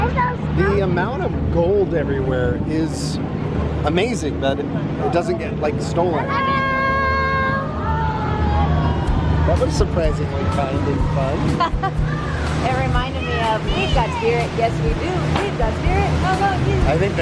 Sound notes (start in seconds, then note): 11.5 laughing